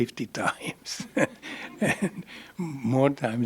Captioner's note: laughter